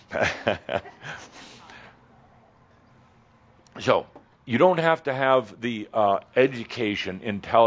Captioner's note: Adamus chuckles